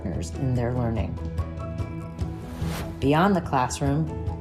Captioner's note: gentle upbeat music; graphic whooshes